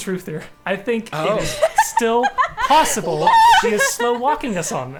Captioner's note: players laughing